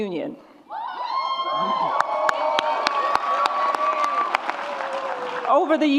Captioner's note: audience cheers and applauds